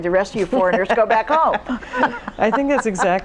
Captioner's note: laughs